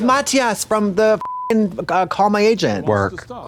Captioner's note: beep